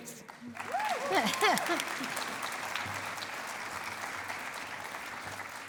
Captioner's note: cheering and applause